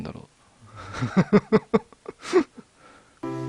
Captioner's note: laughs